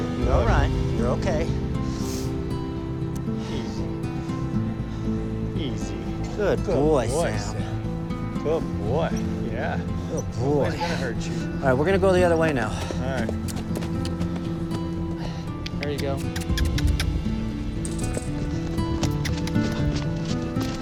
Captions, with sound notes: You're all right. You're okay. - Easy. Easy. - Good boy, Sammy. - Good boy, Sam. Yeah, good boy. Nobody is going to hurt you. - All right, we're going to go the other way now. - All right. (clicking tongue) There you go. (clicking tongue)